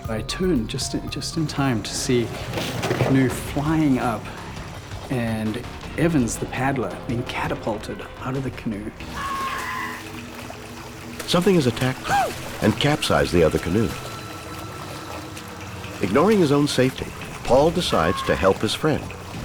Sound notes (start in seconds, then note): 9.5 man screaming; 9.5 water splashing